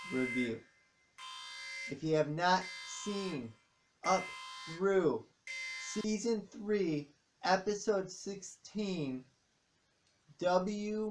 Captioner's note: alarm stops